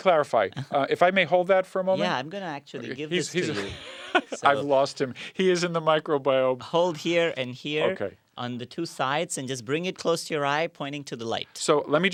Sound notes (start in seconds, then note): 3.4 laugh